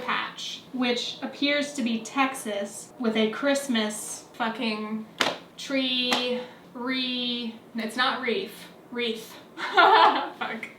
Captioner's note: laughs